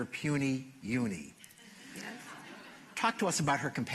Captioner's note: laughter